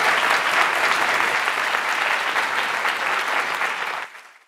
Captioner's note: applause